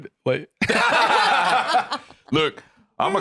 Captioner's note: all laughing